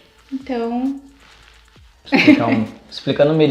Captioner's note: laughs